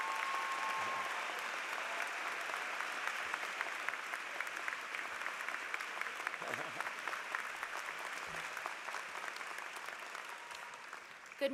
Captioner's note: applause